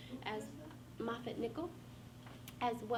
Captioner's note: faintly speaking